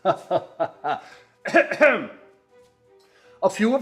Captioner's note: coughs